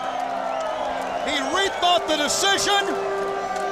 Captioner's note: crowd cheering